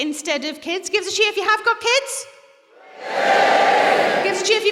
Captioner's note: cheering